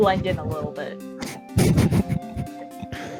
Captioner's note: chuckles™